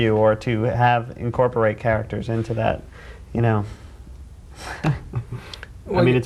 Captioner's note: chuckling